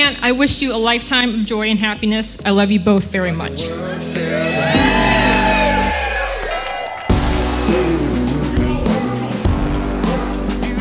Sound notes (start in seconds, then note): 4.1 crowd cheering; 8.1 upbeat music